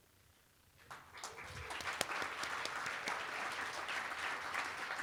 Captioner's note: applause